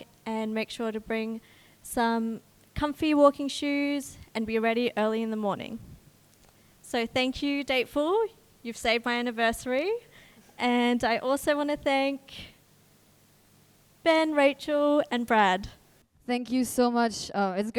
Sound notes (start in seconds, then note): none